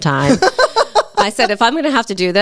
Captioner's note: laughs